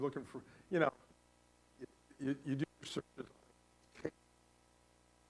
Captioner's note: static